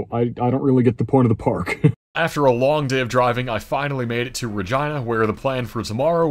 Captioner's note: laughs